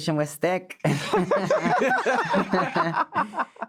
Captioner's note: all laughing